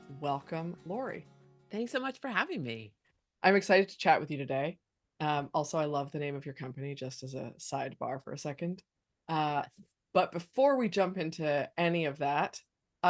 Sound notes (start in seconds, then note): none